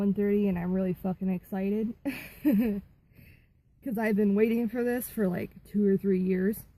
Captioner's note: laughter